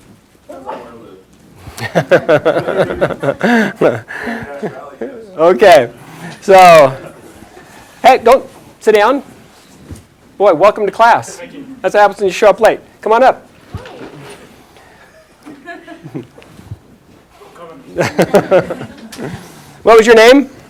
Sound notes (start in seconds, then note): 1.6 chuckles; 17.9 chuckles